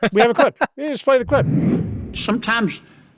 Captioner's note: laughs; transition whooshes